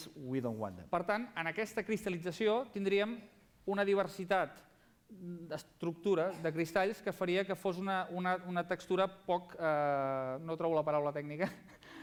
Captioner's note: non-english speech